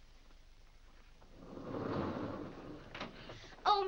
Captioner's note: doors slide open